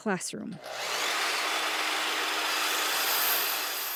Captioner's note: saw whirring